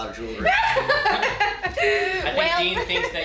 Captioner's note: chuckling